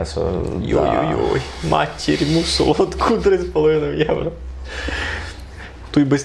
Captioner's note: strong Rusyn expressions